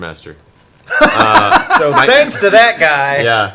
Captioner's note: laughs